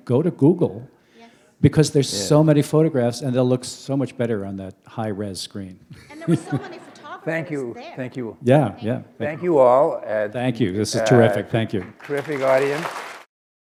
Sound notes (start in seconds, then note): 5.9 chuckle; 11.6 applause